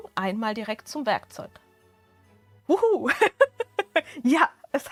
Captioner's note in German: Gelächter